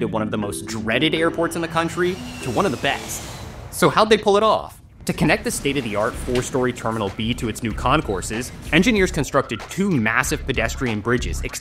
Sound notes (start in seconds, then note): 3.1 jet engine roars; 6.3 air whooshes